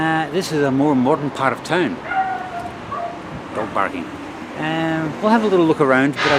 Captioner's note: barking dog